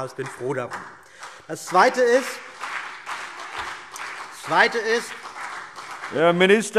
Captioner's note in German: Beifall CDU und BÜNDNIS 90/DIE GRÜNEN